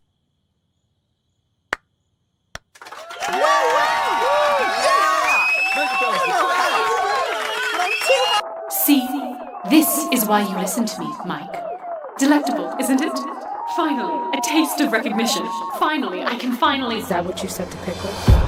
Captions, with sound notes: [CLAPS] [VARIOUS CLAPPING AND CHEERING] See?... This is why you listen to me, Mic. Delectable, isn't it? Finally a taste of recognition. Finally, I can finally- Is that what you said to Pickle?